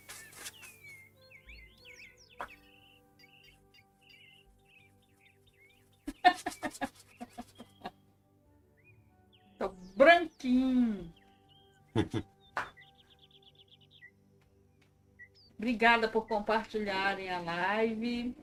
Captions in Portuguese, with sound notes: [risadas] Tô branquinho. Obrigada por compartilharem a live.